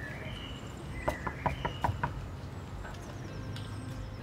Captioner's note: knock on door